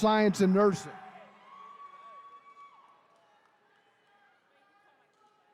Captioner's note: attendees cheering